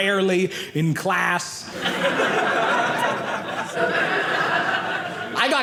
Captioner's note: audience laughing